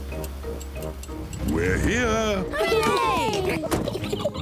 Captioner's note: oinks; all cheer; both laugh